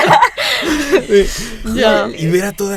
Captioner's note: laughing